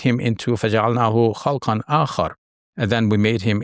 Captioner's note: speaks verse in Arabic